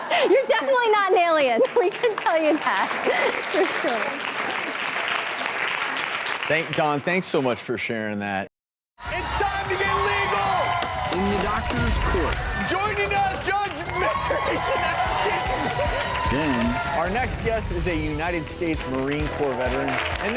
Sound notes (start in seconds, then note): 0.0 laughter; 4.6 applause; 10.7 cheering; 15.0 cheering